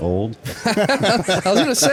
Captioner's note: all laughing